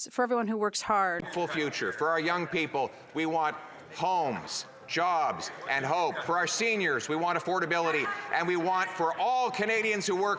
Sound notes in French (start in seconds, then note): 6.5 voix de l'interprète